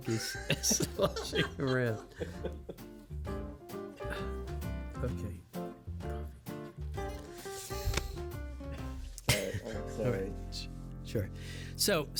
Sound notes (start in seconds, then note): 2.0 laughing